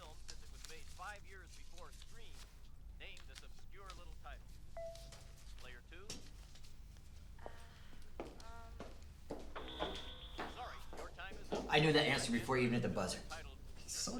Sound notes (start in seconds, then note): 4.6 TV chimes; 9.8 TV buzzes